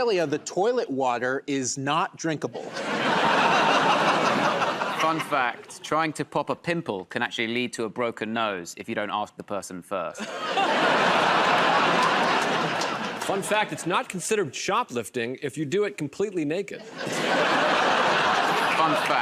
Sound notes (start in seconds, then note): 2.6 laughter; 10.2 laughter and applause; 16.8 laughter